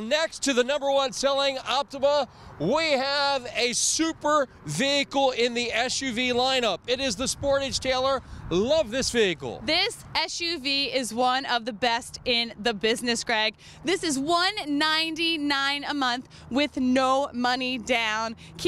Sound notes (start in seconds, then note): none